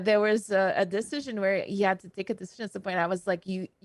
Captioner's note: none